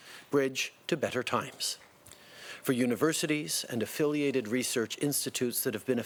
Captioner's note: speaking French